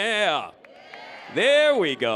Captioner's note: crowd